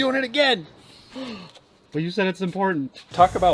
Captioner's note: exaggerated gasping